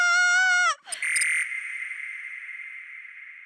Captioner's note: screaming; beeping Noise